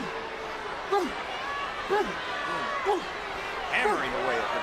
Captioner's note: Orton grunting